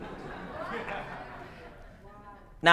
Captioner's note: laughter